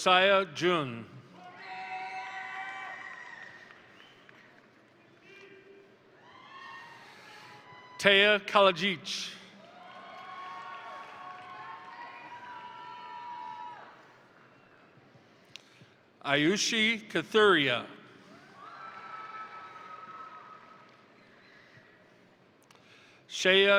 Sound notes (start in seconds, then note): 1.4 crowd cheering; 2.4 crowd applauding; 9.5 crowd cheering; 9.6 crowd applauding; 18.3 crowd cheering; 18.5 crowd applauding